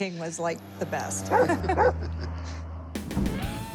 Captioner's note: laughter